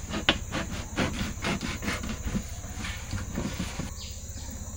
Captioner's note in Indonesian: terengah-engah